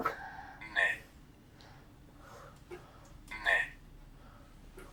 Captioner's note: achmet – artificial male voice